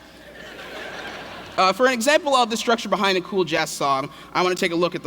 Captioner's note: laughter